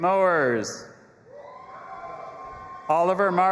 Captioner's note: audience applauding and cheering